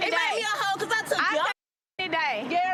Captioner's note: cussing